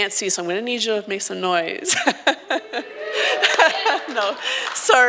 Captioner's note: laughs